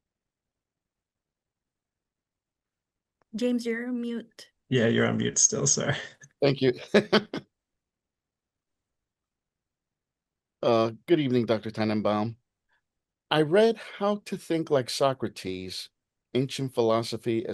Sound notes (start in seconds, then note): 6.4 chuckles